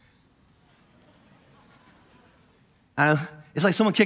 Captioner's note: congregation laughing